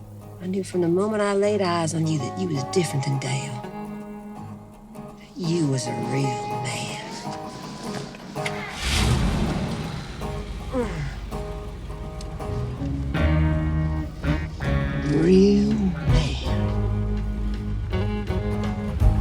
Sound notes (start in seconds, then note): 7.4 engine starts; 18.9 country rock music